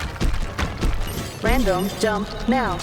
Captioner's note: robot voice